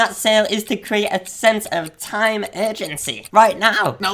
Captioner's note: clock ticking